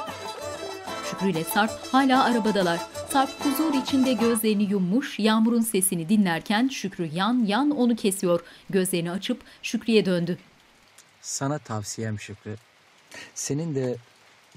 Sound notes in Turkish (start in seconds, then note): 0.0 Müzik; 5.8 Yağmur sesi